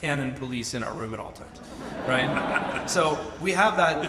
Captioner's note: audience laughs